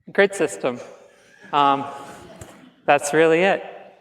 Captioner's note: laughs